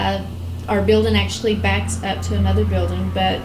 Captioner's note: none